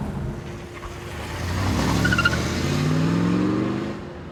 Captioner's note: engine revs